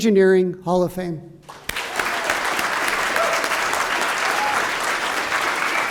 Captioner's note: applause